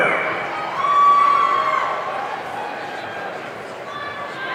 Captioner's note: audience cheering